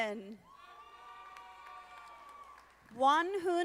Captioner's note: audience applauding